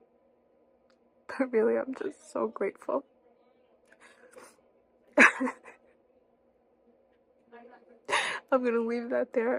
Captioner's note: laughing